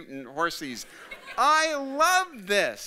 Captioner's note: audience laughing